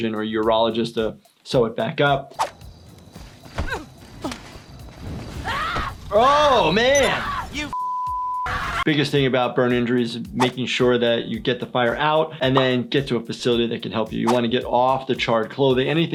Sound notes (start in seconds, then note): 5.2 screaming